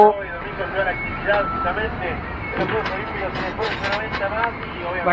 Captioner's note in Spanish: sonido de radio portatil